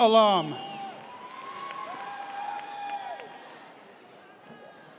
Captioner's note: audience cheers